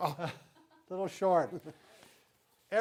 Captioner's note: laughing